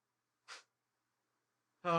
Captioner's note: scoffs